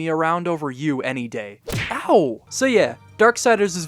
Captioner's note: punch sound